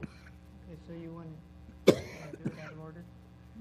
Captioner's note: cough